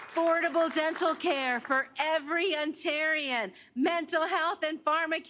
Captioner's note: applause